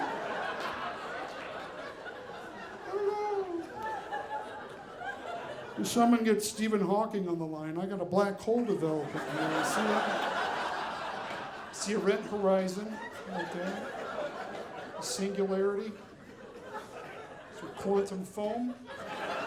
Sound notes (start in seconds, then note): 0.0 audience laughing; 9.8 audience laughing